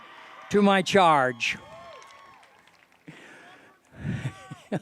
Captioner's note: cheering